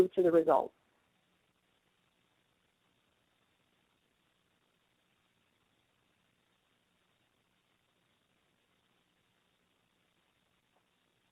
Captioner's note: silence